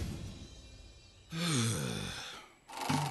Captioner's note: Chef Sighing